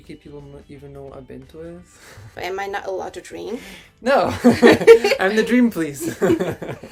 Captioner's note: laughs